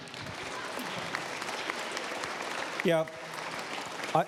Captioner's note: applause